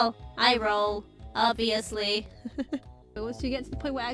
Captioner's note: laughs